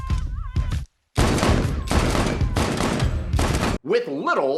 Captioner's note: upbeat drum music; pistol bangs